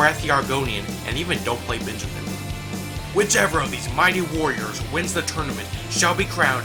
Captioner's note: tough guy voice